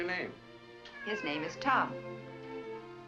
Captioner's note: cat meows